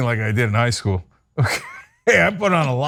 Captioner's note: laugh